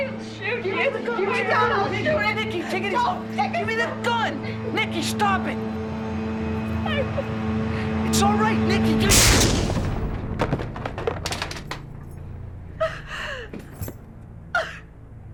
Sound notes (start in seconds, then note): 6.7 sobs; 9.0 gun firing; 14.5 sobbing